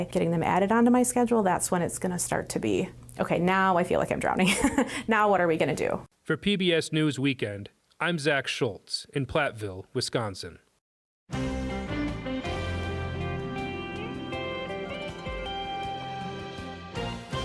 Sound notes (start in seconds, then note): 7.5 voice-over